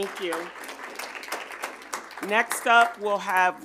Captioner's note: audience applauding